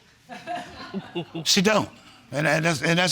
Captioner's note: laughing